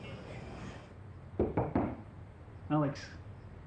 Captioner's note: door knocks